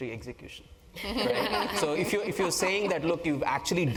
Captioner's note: laugh